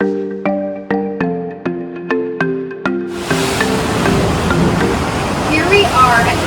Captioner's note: sound-Waves Crashing